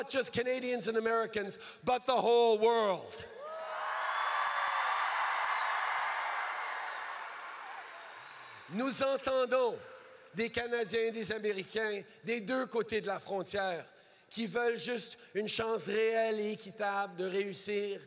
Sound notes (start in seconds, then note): 3.3 crowd cheers